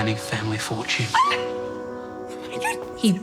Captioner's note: gasps